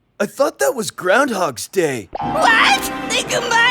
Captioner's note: shrieks